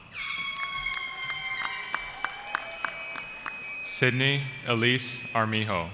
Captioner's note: cheering